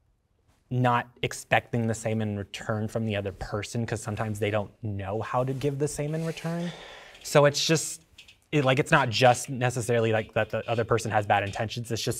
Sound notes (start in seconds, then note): 6.5 sighing agreeingly